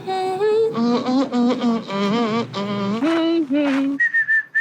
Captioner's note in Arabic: امرأة تدندن; رجل يدندن; أشخاص يدندنون نغمات